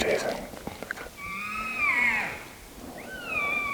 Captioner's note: caller cow calling